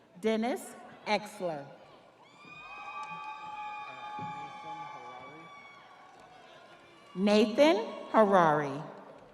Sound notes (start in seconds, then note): 7.2 audience applauding; 7.2 audience cheering